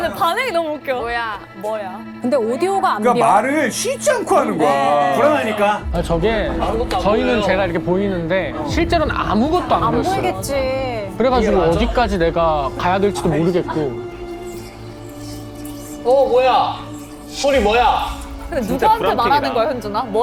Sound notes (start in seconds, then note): 2.9 incessant chattering in nervousness; 14.1 eerie noises making matters worse